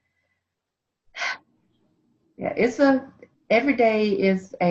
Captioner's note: sighs